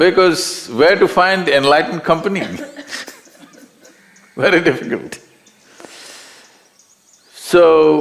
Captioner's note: laughs